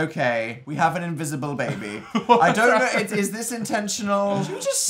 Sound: laughs

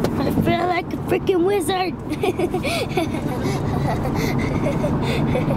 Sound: laughs

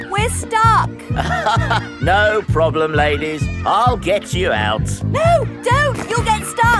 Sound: chuckles

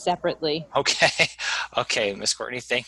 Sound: laughs

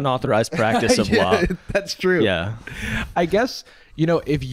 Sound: laughs

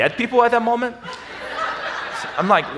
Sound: audience laughs

